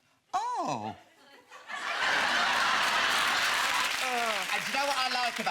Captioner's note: audience laughing